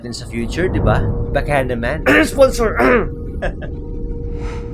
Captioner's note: ahem